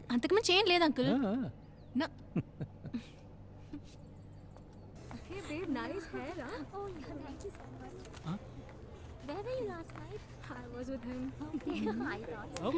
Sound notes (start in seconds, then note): 2.3 Chuckles